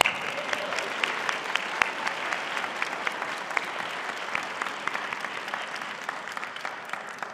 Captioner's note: applause